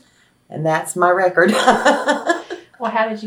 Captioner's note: laughs